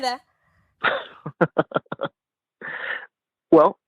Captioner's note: laughing